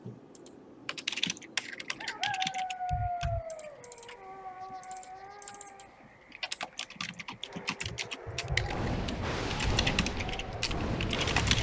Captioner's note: typing sounds